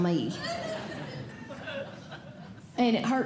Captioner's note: audience Laughing